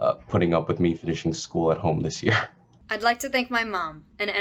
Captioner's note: laughs